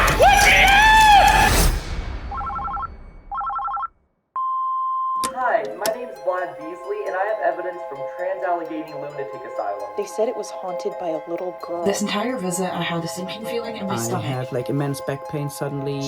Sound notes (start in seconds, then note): 3.3 phone rings; 4.4 answering machine beeps